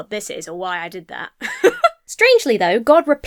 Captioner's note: laughs